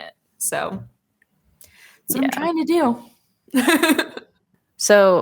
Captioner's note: laugh